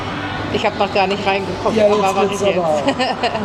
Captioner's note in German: gelächter